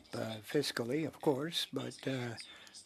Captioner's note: speaking French